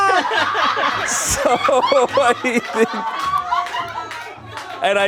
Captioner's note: loud laughter